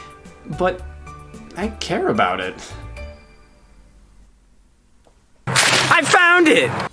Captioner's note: paper rips